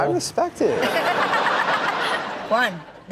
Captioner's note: all laugh